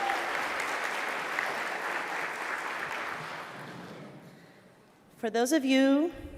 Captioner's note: applause